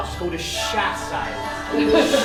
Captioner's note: laughter